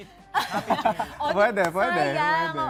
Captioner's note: laughter